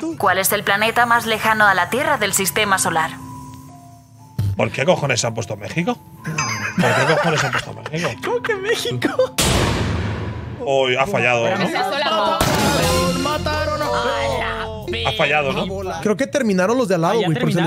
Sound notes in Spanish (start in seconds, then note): 9.4 Estallido de globo